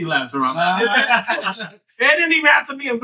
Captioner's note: all Laughing